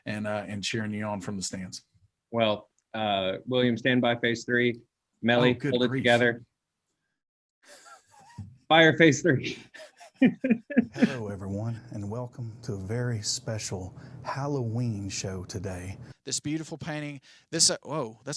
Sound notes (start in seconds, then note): 9.4 chuckling